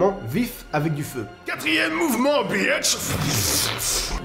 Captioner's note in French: bruit d'explosion